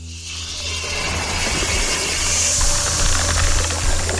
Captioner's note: snake screeches